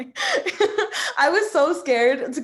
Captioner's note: laughing